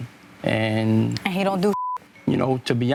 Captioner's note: beep